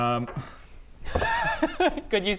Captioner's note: sad noise